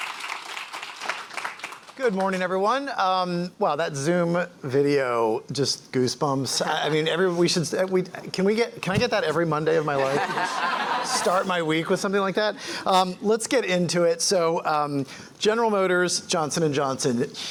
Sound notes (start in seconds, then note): 9.9 laughter